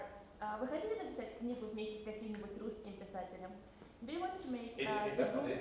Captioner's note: speaks in Russian